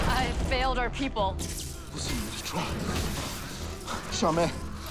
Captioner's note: speaking mandarin